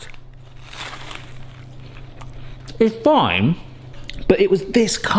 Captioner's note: pastry crunches